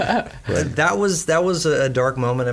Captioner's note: all laugh